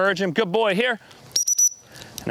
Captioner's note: whistle blows